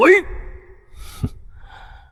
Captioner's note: cold snort